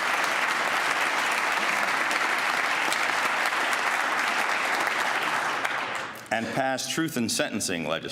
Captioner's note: applause